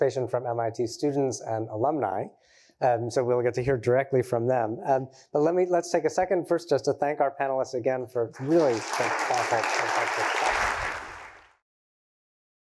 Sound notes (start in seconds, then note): 8.3 applause